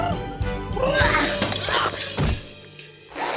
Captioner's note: window smashes